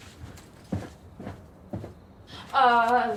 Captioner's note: steps receding